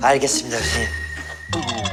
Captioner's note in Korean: 스윽